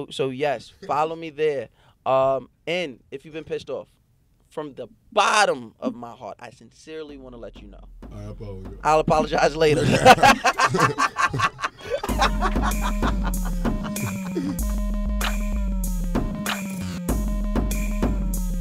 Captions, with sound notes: So yes, follow me there. And if you've been pissed off, from the bottom of my heart, I sincerely wanna let you know, - I apologize. - I'll Apologize Later. (laughing) (dance music)